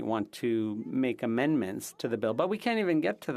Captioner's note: speaking French